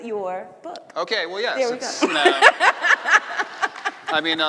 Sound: laughing

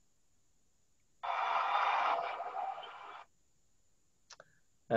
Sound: crowd applauds

